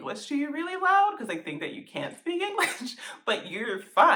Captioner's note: laughter